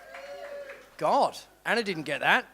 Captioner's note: applause